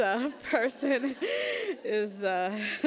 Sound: laughs

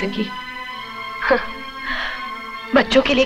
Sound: chuckles

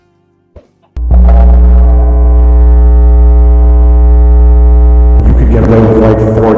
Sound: very loud static

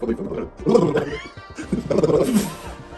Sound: host making gibberish noises; father laughing

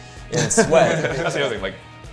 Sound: laughing

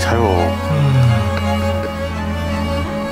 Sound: yawn

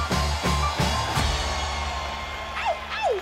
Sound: crowd cheering

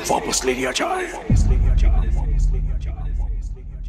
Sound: echoing

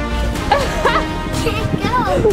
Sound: laughing

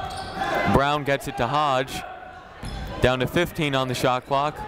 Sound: none

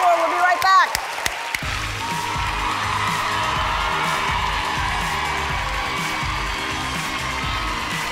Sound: applause

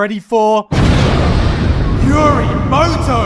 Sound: explosion

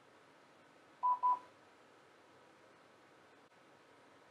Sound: beeping

